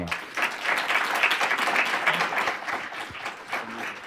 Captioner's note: applause